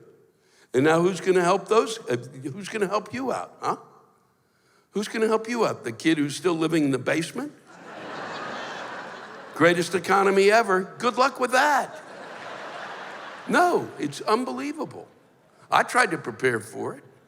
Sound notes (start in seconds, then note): 7.7 laughter; 11.9 laughter